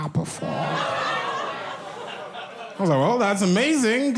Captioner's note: audience laughs